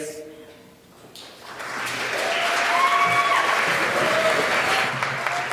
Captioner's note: applause